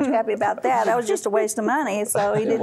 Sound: laughter

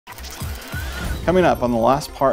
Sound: gears whirring

